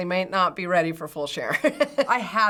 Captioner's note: chuckles